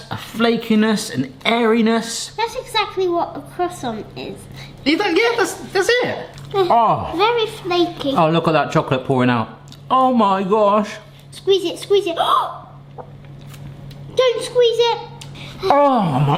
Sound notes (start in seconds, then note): 6.7 groaning; 13.3 gasps; 15.6 groaning